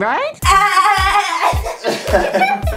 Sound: makes Dolphin Noise

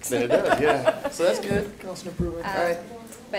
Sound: laughs

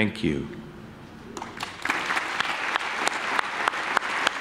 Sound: clapping

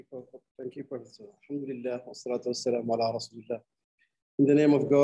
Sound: speaking arabic

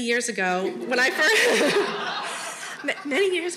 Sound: all laughing

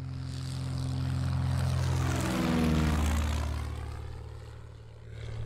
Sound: airplane revving past

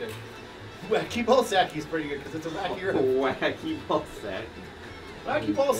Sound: laughs

